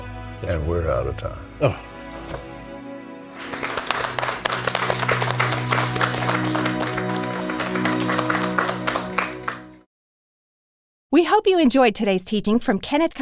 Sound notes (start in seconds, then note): 3.3 all clapping